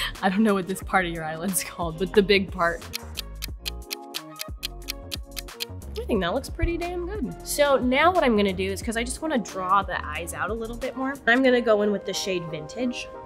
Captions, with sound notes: I don't know what this part of your eyelid's called, but the big part. [clock ticking] I think that looks pretty damn good. So now what I'm gonna do is 'cause I just wanna draw the eyes out a little bit more, I'm gonna go in with the shade vintage